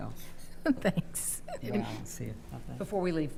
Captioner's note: chuckling